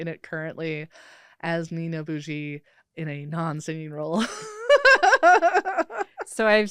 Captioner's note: laughs